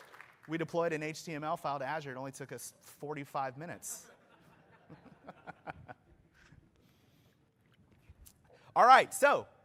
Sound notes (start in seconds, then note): 3.9 laughter